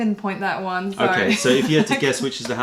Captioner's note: laughter